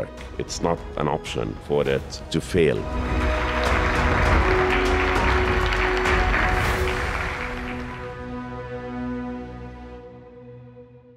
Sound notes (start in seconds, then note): 3.0 attendees clapping; 3.0 lively music